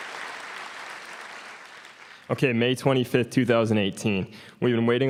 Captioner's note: applause